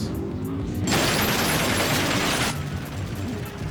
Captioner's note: guns fire